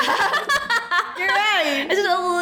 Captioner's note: laughs